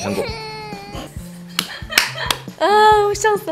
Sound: hahahahahaha

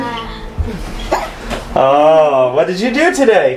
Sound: hiccups

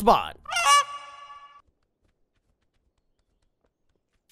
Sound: goose squawks

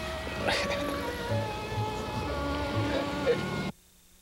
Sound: chuckling

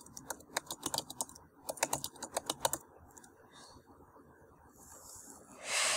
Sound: typing

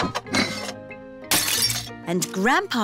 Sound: shattering

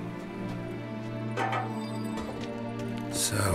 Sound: clank

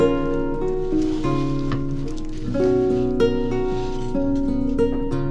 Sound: ingredients grinding

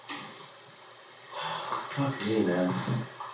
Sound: sighs

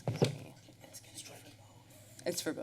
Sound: background chatter

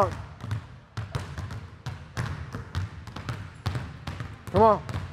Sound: balls continue thudding

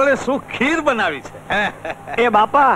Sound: laughs

